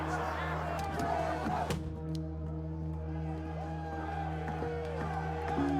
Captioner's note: crowd chanting, cheering